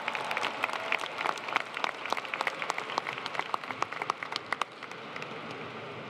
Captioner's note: applause